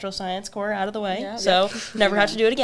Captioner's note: chuckles; laughs